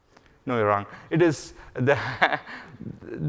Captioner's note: laughs